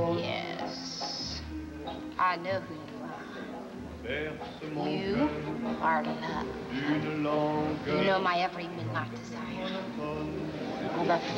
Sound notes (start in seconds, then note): 5.1 french accent